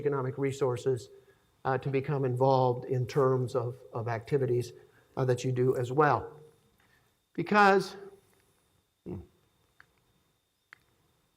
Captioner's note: laughing